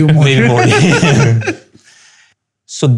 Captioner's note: laughter